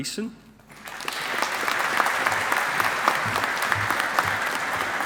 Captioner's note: audience applauding